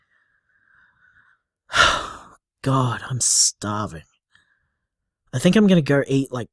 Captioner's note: sighs